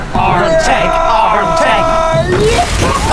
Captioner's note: screaming; car shattering